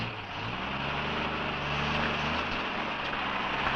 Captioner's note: engine rumbling